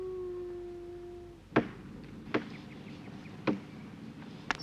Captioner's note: hammering